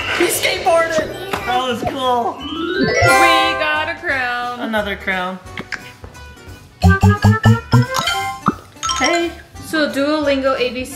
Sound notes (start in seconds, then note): 0.0 skateboard screeching; 6.8 app beeping; 6.9 icon ringing